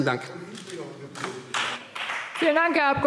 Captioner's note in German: Beifall Freie Demokraten